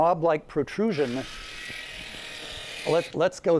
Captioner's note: tape measure extending